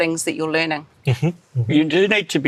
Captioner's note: hums approvingly